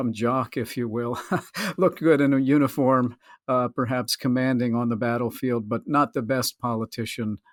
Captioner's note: laughs